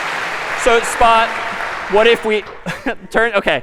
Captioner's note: می خندد